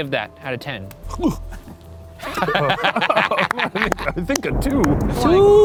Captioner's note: choking; laughing